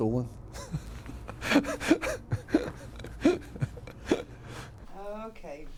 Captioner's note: laughs